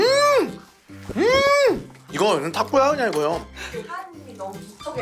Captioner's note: gulping saliva